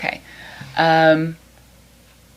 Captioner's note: none